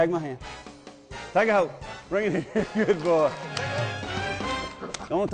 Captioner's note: laughing